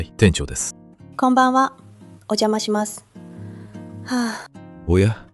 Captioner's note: sigh